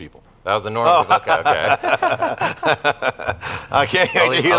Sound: laughing

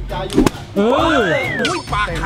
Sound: blows

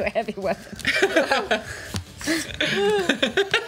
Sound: laughs

